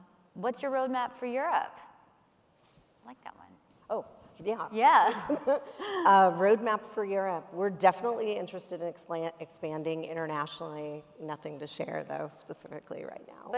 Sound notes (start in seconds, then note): 6.3 laughs